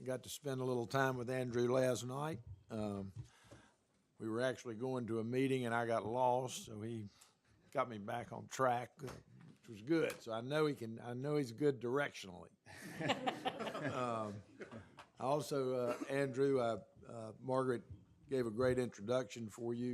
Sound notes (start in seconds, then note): 12.7 laughter